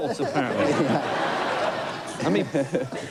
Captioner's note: laughter